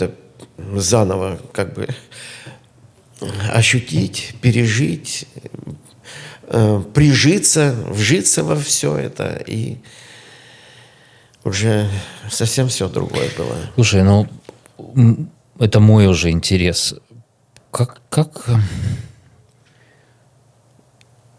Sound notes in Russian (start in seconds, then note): 3.4 фыркает; 10.6 вздыхает